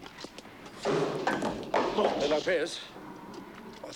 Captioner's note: frame clattering